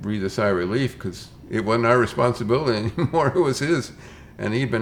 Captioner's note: chuckles